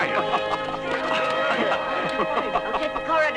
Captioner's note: laughing